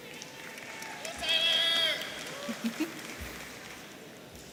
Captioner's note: audience applauding